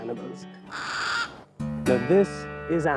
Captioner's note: bird caws